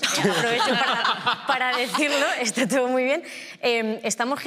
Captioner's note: they all laugh